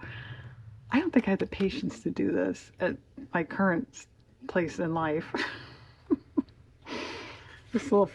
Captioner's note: laughs